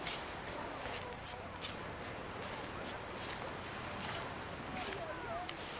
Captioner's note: the sound of traffic fades to the laughter of tourists and crash of waves